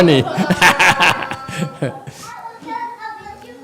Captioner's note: laughs